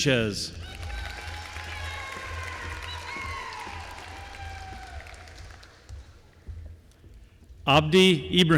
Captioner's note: applause